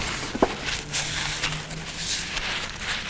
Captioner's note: crackling